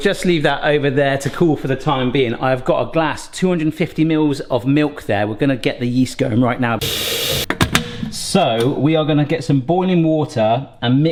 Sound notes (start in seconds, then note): 6.8 faucet running; 6.8 kettle lid shutting